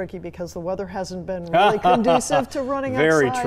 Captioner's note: laughing